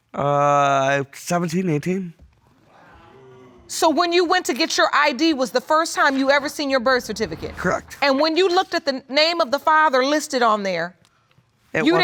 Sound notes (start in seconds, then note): 2.7 audience exclaims